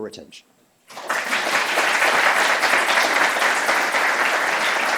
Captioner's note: applause